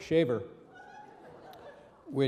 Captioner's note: audience laughing